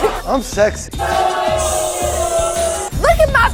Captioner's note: audience boos